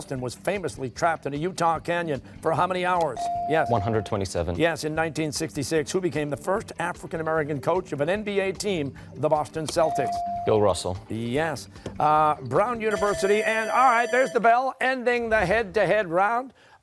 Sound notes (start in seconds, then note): 12.9 buzzer